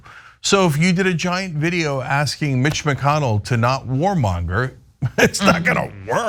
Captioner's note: laugh